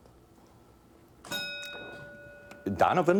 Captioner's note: bell dinging